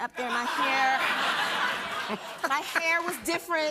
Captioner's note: laughter